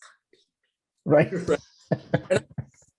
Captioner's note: laughing